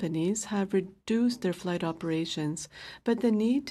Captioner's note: speaking French